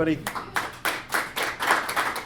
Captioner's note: applause